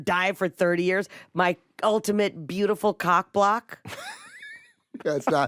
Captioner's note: laughs